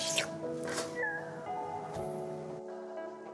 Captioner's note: slurping; meowing; gentle music